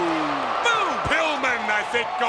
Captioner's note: blows thudding; crowd clamoring